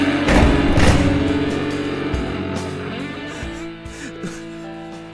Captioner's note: door slams